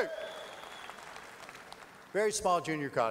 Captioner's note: audience applause